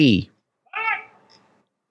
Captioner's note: handler shouts